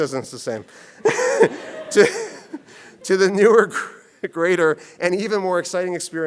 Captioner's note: laughs